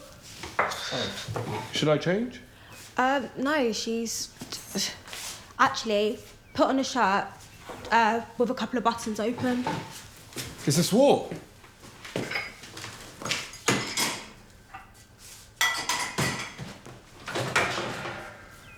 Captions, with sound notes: - Oh, should I change? - Um, no. She's, actually, put on a shirt with a couple of buttons open. - Is that all? (ceramics clattering)